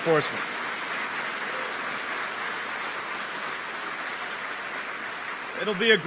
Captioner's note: applause